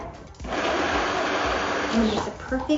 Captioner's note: blender whirring